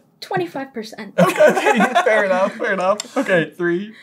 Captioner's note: laughter